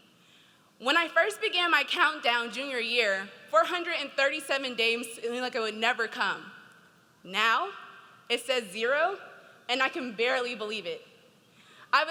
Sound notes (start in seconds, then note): none